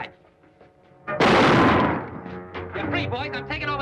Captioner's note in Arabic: صوت طلقات نارية